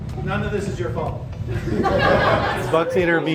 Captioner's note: crowd laughter